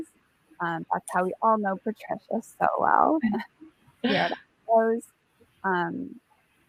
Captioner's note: chuckles